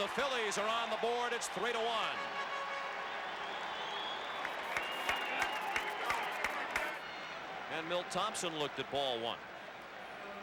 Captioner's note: applause